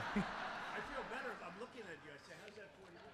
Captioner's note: laughter